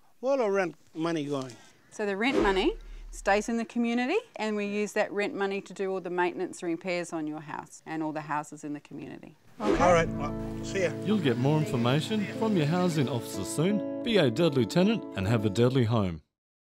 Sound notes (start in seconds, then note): 11.2 voiceover